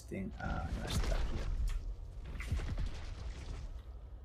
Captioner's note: rumbling